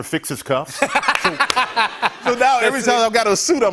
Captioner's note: laughs